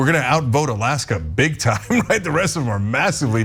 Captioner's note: laugh